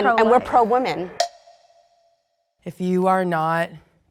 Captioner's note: clock ticks